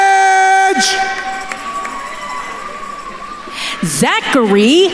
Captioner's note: attendees cheering